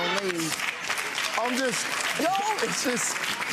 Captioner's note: audience laughs and claps